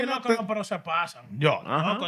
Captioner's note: speaking Spanish